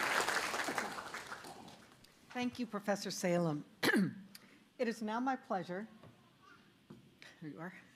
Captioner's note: applause